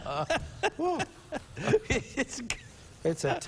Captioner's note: laughing